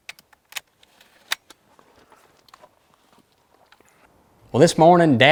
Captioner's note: gun loading